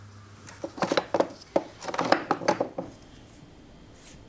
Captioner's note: clatter of wood